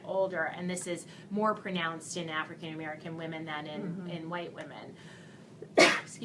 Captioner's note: coughs